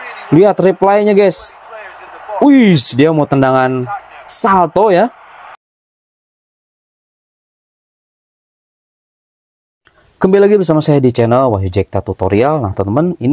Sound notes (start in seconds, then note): 5.2 applause